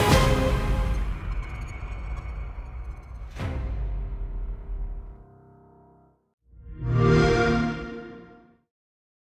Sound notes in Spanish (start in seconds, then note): 6.7 sonido xbox